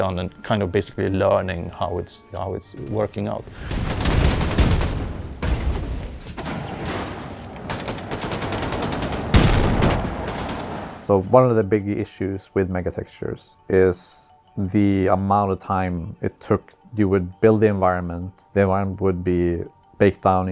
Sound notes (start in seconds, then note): 3.6 gunfire; 6.8 flames whoosh; 8.2 more gunfire; 9.4 boom